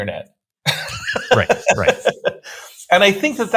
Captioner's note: laughs